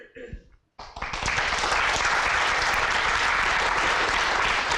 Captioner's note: applause